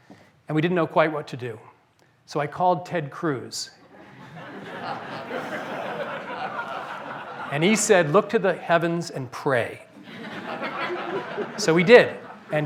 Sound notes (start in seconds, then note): 3.8 laughter